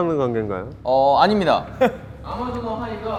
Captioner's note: fails to hold back laughter